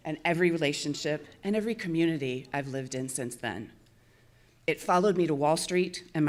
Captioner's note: none